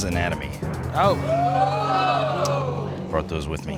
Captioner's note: audience exclaims